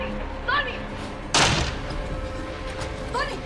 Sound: bang

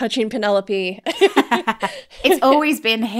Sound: laughing

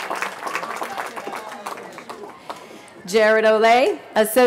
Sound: cheering

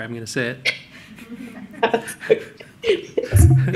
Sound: laughter

